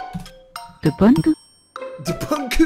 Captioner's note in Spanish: con otro acento